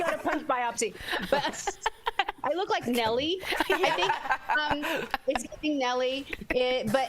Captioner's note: laughter